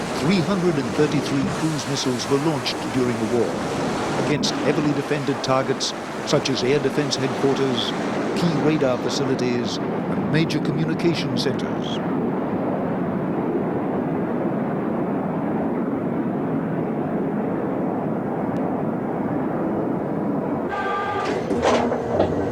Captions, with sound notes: 333 cruises missiles were launched during the war against heavily defended targets, such as air defense headquarters, key radar facilities and major communications centers. (jet engine roaring)